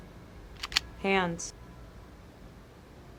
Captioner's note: gun cocking